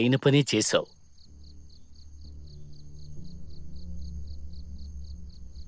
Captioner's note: crickets chirp